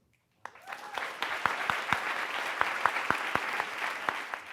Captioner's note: audience applauds